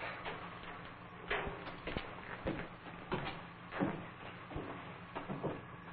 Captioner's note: sound of steps